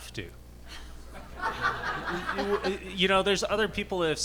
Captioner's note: audience laughing